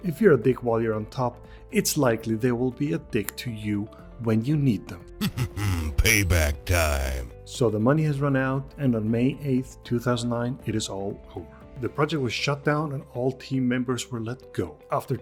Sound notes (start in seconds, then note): 5.2 laughs